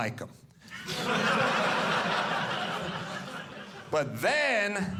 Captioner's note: audience laughing